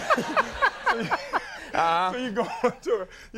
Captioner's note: Conan laughing